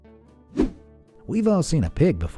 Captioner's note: air whooshing